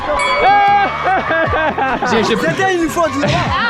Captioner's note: bell dings